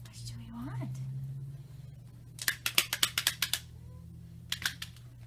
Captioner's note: toy claps